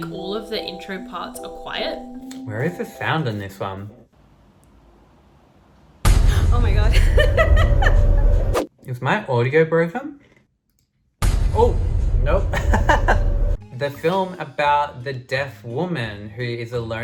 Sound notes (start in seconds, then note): 6.1 loud Music; 8.1 laughs; 12.7 laughs